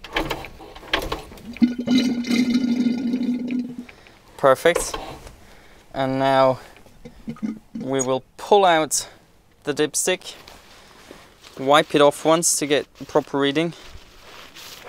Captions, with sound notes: [Oil noises] Perfect, and now we will pull out the dipstick, wipe it off once to get proper reading,